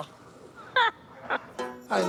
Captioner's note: laughs